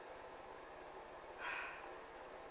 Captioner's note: sigh